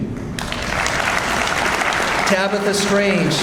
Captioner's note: audience applauds